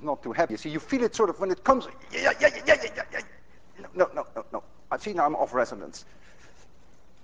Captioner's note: yells